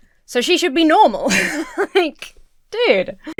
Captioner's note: laughs